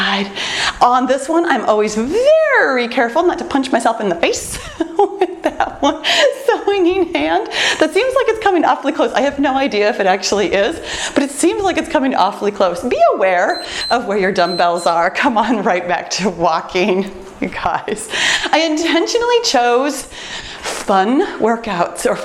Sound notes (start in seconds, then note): 4.5 laughs; 13.4 timer beeps